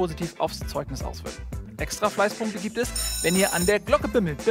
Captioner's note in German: Schulglocke